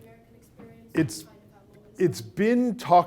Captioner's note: speaking away from microphone